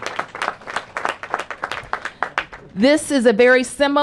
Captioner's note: applause